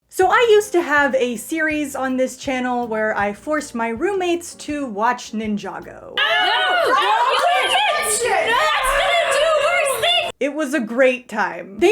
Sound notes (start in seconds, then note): 6.2 incoherent screaming at the Ninja being stupid